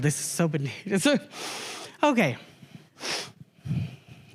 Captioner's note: sniffs